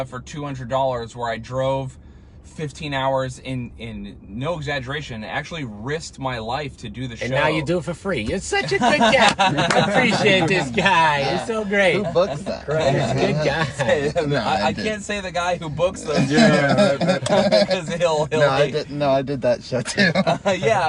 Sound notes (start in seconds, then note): 8.6 laughing